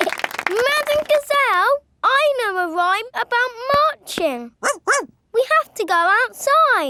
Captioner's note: laughing and clapping; barks